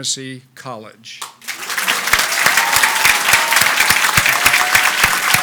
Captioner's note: audience applauds